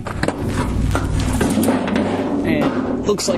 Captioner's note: metal slams